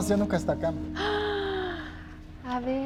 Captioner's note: gasps